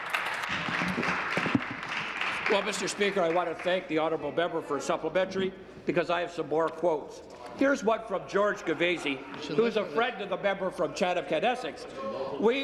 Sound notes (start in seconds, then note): 4.6 applause